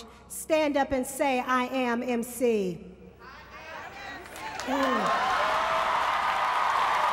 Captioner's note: applause